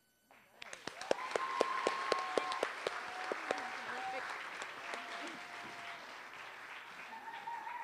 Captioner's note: applause